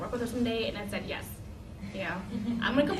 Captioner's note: laughter